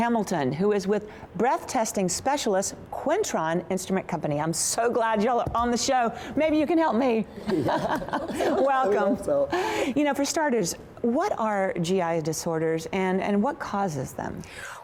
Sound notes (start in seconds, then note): 7.4 laughter